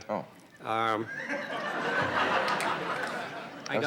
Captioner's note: audience laughs